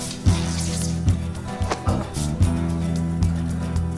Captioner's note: flag tearing